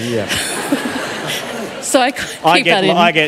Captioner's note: laughter